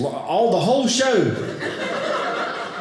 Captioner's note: audience laughing